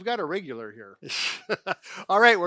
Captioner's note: laughing